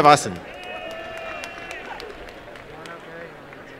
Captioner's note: applause and cheering